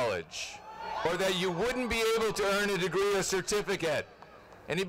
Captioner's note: cheers and applause